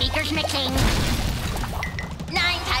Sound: explosion

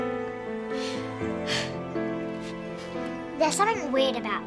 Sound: sighs

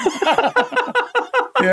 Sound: laughing

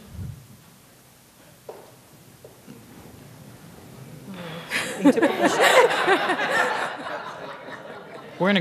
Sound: laughter

